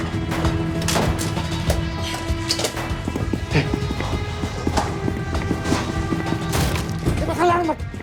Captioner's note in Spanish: Continúan los disparos